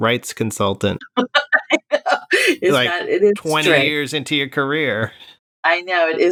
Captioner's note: laughter